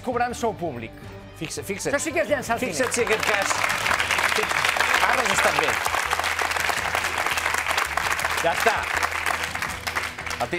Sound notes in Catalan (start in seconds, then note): 6.1 aplaudiments